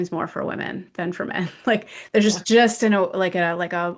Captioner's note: laughs